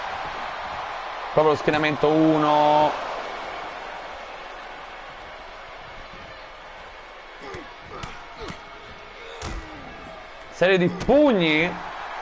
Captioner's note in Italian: Applauso